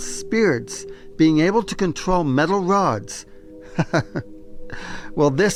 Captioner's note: chuckles